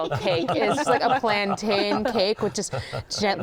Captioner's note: laughter